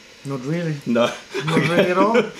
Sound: laughter

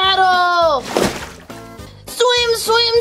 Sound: water splashes

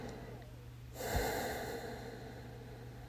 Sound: breathe

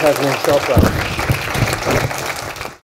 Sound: audience applause

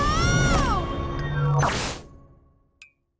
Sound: screaming

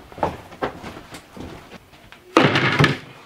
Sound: heavy footsteps; thud

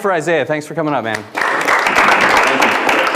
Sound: audience clapping

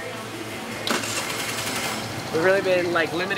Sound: engine starting

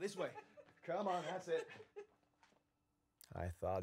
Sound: Christine laughs

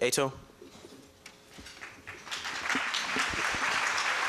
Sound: applause

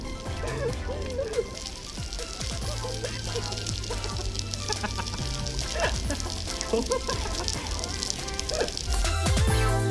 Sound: pterodactyl laughing

